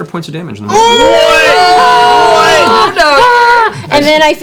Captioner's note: cheering